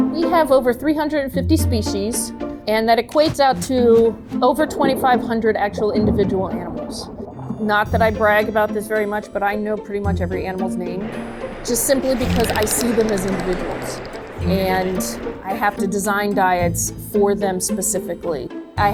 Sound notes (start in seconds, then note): 3.8 wings flap; 5.8 water gurgles; 11.8 dolphin squeaks